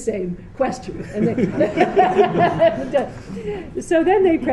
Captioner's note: laughter